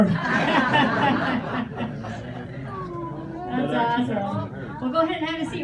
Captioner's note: laughter